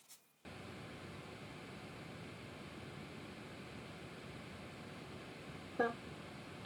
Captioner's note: brushing; computer fan